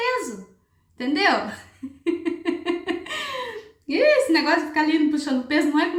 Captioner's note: laughs